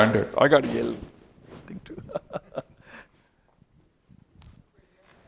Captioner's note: laughs